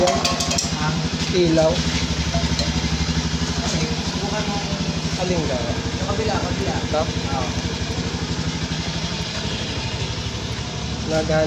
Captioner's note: motorcycle engine